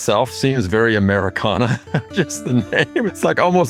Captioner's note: laugh